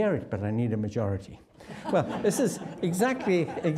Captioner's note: audience laughing